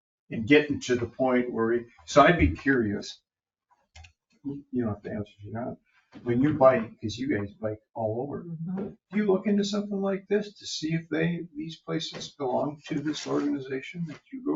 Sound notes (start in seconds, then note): 3.1 speaking faintly